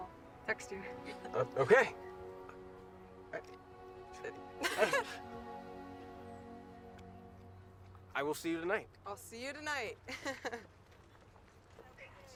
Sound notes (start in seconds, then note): 4.6 both laughing; 6.2 gentle music; 10.1 laughs